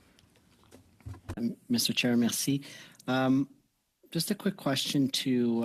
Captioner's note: speaking French